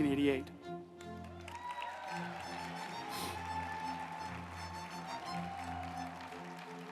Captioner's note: uplifting music; group applauding